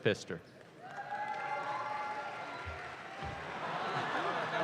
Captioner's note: audience claps